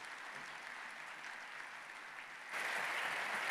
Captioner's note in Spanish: aplausos